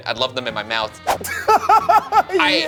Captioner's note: laughs